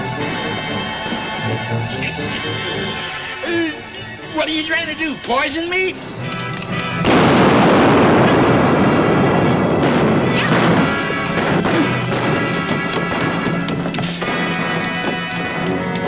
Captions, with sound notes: (tense music) - What are you trying to do, poison me? (safe booms) (guns bang) (exciting music)